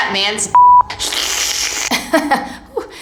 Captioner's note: sucking vacuum sounds; hesitant laughing